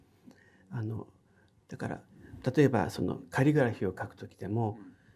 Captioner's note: speaking in foreign language